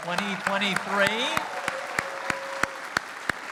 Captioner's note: applause